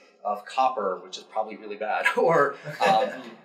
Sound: audience member laughing

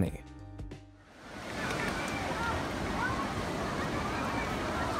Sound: wind rustling

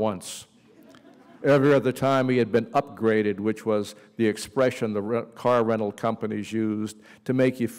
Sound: laughter

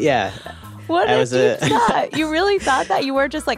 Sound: speaking faintly

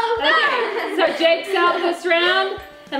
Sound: laughs

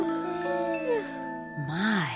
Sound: yawns

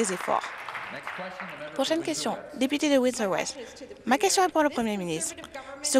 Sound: some Applause

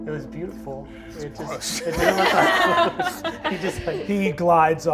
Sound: all laugh

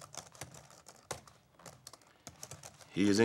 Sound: keyboard clicking

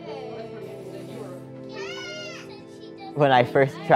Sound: toddler cries

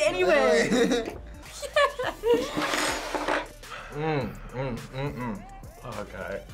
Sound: laughs

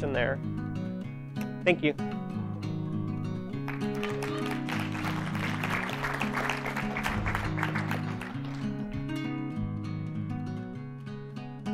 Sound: clapping

